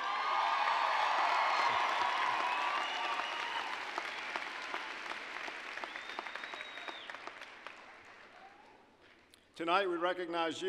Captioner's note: applause, cheering